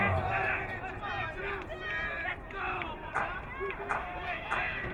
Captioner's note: crowd cheering